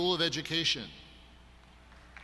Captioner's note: applause